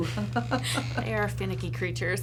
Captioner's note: laughs